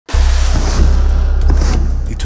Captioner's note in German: Dröhnen